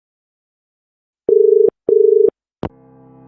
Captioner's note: dial tone